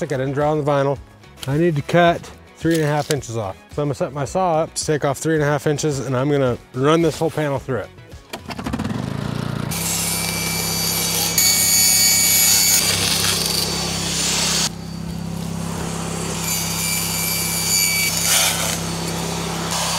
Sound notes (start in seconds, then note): 8.2 generator starts; 8.9 saw buzzing; 17.3 saw buzzing